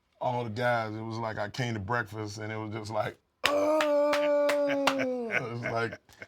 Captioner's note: applause